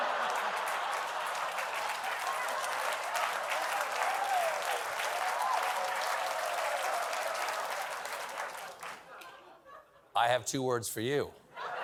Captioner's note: laughter